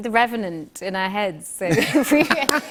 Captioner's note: laughter